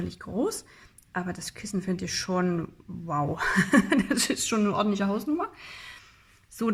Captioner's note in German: gelächter